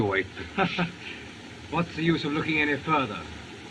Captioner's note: laughs